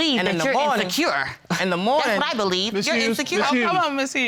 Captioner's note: scoffs